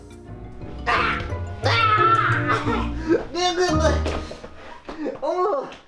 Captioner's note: struggling noise